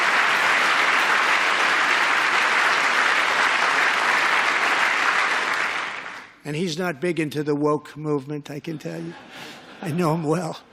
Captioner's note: applause